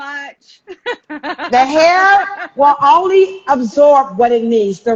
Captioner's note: laughs